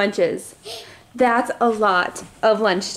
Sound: inhales sharply

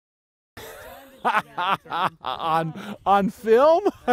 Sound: laughs

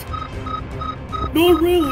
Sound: loading Beeping

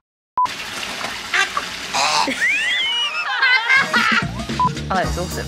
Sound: laughter

